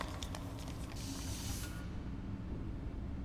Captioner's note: air hissing